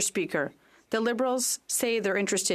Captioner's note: speaking French